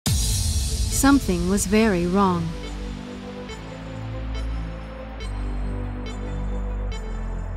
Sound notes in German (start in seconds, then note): 0.1 dramatische Musik; 1.2 Voiceover